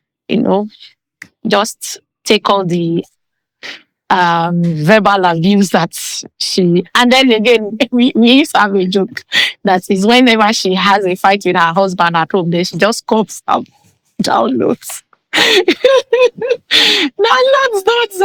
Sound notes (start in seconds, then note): 15.4 laughing